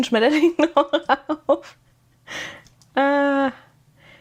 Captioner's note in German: gelächter